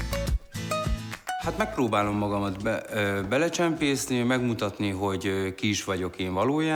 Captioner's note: speaking in foreign language